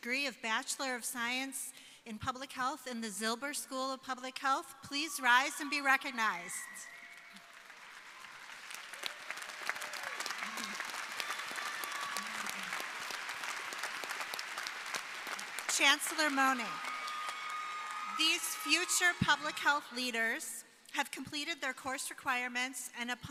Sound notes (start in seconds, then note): 6.8 crowd applauding